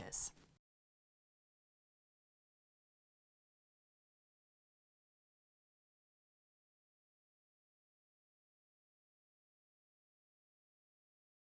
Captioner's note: no Sound Present